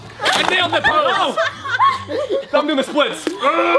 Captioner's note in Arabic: الجميع يضحك